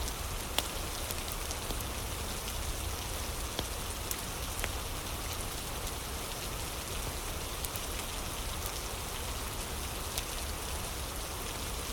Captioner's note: fire crackling; fire crackling